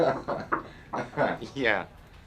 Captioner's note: tapping on the door